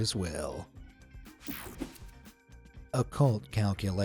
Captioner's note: screen whooshing